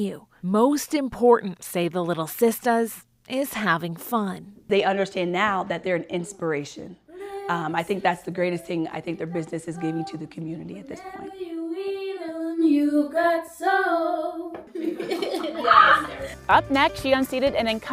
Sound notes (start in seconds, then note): 14.7 both laughing